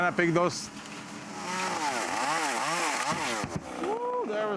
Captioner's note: saw buzzing